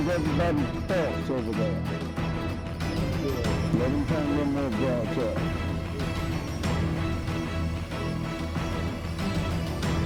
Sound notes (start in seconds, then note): none